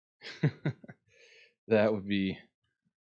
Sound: laughs

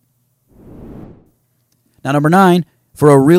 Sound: swooshes

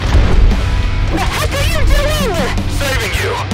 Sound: Saga, breaks through personal comms

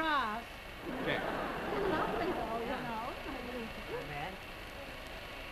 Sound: audience laughs

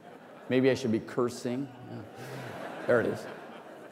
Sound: laughter

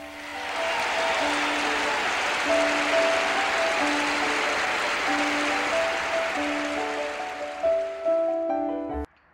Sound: cheers and applause

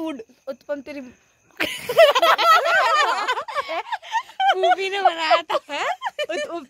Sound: laugh

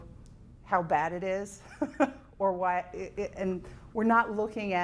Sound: chuckling

